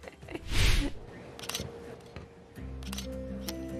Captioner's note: laughter